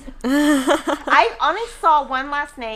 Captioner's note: laughing